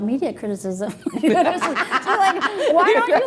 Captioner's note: laughing